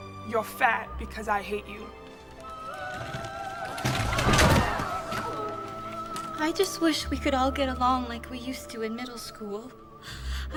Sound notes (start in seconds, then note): 3.9 people groan